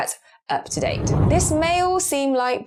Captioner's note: whooshing air